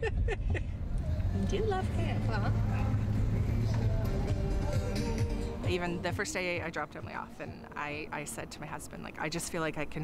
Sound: laughter

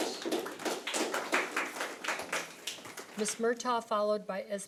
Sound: audience clapping

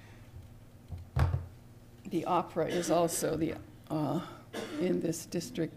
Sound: cough in background

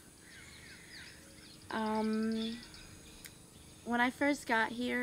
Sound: birds chirping

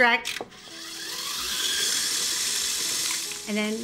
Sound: mixer whirring

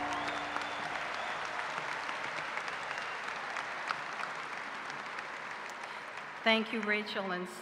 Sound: cheers and applause

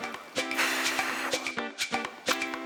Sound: taking a deep breath~

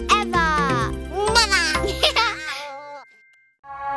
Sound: both giggle

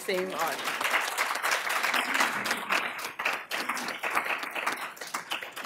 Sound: applause

